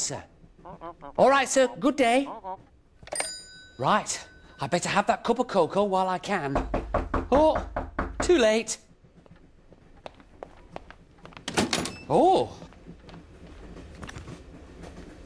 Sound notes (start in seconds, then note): 6.5 knock at door